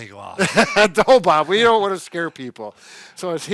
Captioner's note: laughs